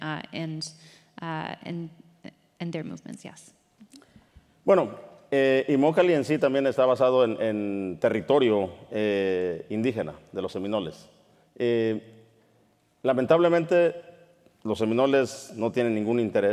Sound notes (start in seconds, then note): 4.6 speaking in Spanish